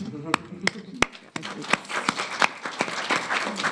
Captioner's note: applauding